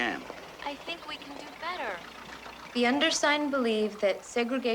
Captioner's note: none